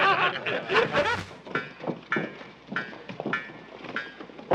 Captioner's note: metal clanging